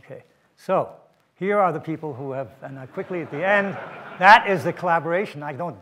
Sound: audience laughter

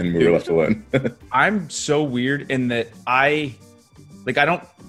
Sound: laugh

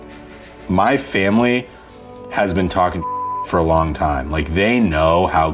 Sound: beeps

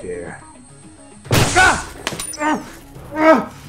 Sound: shouts in pain

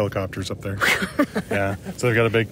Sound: laughs

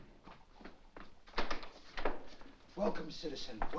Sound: door opens

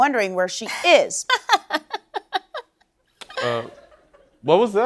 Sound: laughter

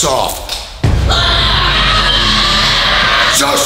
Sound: screaming

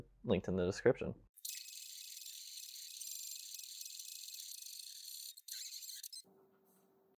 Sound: sounds of Drawing

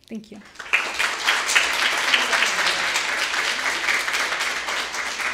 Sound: audience applauding

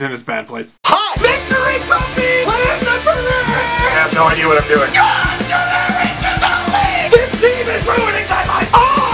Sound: screaming

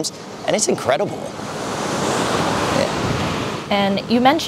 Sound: waves crashing

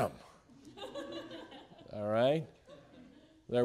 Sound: students laughing

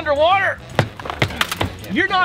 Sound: feet stomping

